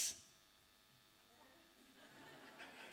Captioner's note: laughter